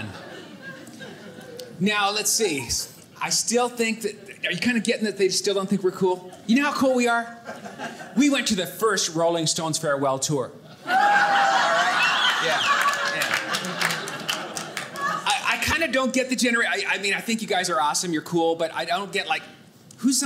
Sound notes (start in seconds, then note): 10.8 audience laughing